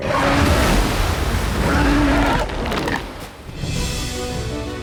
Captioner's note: roaring; orchestral music